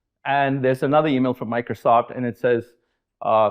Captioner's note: none